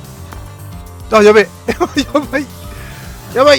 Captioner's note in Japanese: 笑い